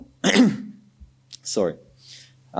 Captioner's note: clearing throat